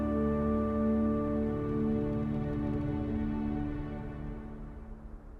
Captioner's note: gentle wind blowing